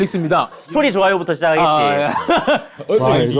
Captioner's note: slow approach